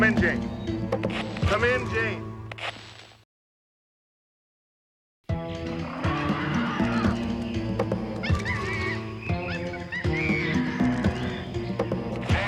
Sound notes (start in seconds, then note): 5.3 dramatic music; 5.4 cheetah screeching